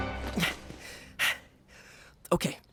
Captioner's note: panting